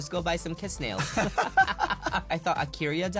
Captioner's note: laughs